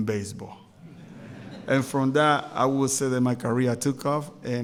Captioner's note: laughter